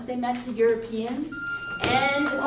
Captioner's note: school bell